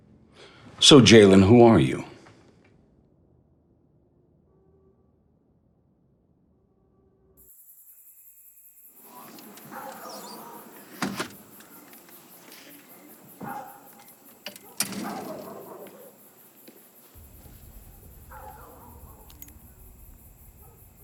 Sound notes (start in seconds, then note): 7.5 crickets chirping; 13.4 distant dog barking